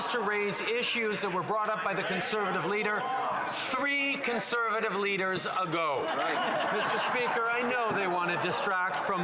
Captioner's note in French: voix de l'interprète